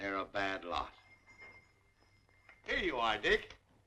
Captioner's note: ringing